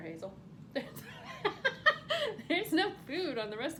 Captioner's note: laughs